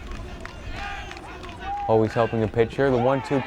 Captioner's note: players chanting in foreign language